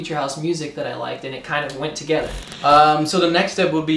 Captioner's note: static